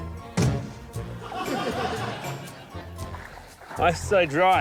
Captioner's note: laughter